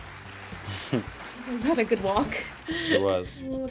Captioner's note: laughing